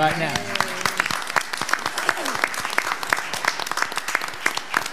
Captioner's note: audience applauding